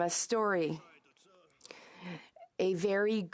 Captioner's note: speaking French